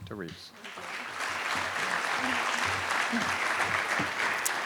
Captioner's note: audience applauding